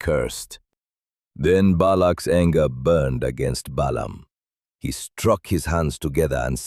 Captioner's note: exasperated